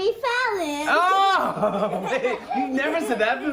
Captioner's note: laughter